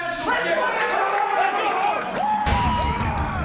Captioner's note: cheering